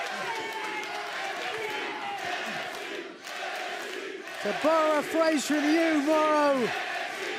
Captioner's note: fans chanting